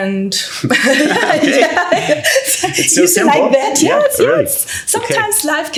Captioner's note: laughs